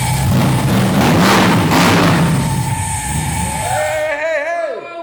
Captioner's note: engine revving